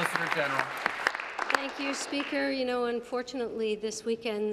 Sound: applause

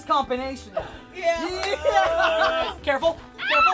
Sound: laughing

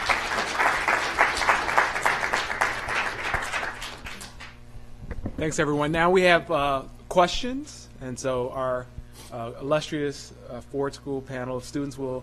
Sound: applause

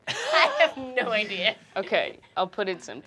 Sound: chuckling

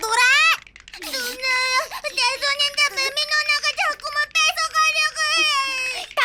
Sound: crying

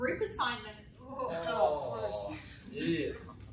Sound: collective disgust

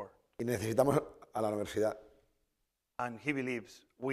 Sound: speaking spanish

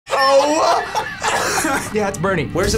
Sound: coughs

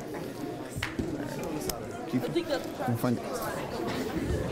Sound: background chatter

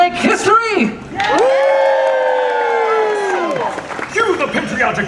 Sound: audience cheers

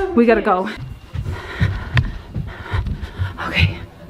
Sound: panting

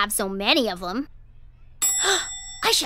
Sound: gasps; bell dings

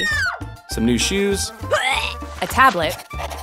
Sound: woman screams; woman retches

